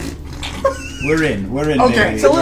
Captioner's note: all laugh